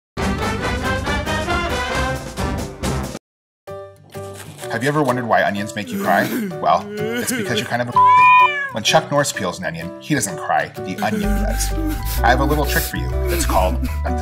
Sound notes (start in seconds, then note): 4.6 voiceover; 7.9 meow sound effect